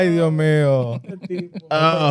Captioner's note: speaking Spanish